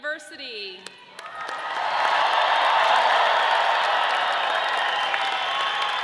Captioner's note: audience applauds and cheers